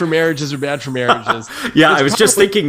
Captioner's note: laugh